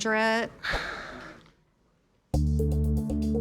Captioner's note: Rick exhales